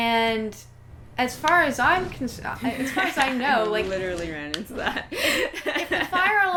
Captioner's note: laughing